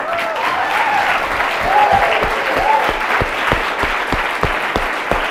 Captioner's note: audience cheers and applauds